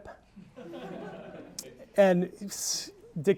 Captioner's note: audience laughing